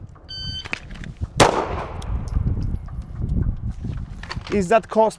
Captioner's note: gun firing